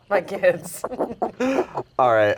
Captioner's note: laughs